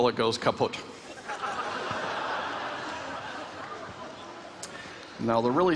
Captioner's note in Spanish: Risas